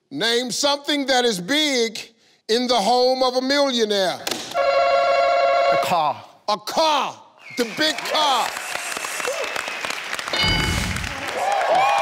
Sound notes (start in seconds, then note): 4.4 ringing; 7.5 clapping; 10.4 ding indicating correct answer